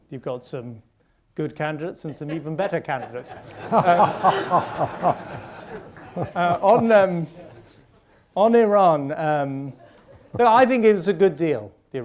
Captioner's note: laughter